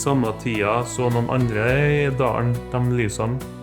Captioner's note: speaking Norwegian